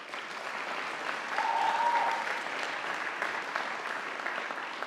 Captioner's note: audience applauding